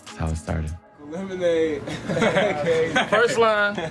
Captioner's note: group laughs